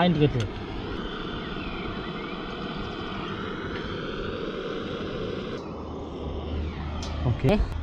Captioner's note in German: brennerrauschen